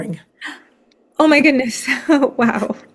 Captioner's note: gasps